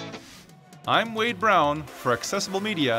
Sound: voiceover

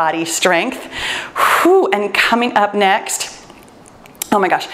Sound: exhales

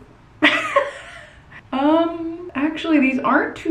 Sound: laughing

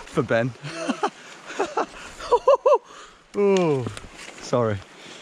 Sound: softly laughing

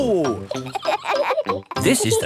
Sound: kids laughing

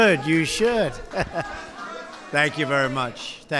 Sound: laughter

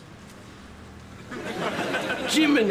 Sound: audience laughs

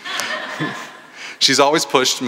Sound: laughter

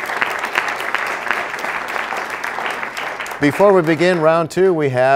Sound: applause

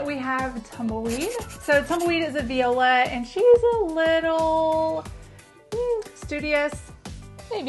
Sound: sound of pencil writing

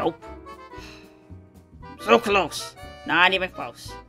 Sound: sighs

